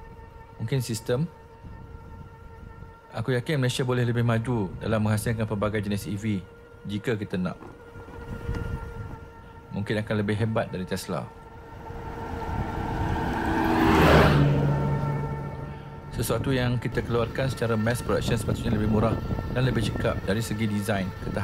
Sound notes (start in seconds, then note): 11.4 motor Sound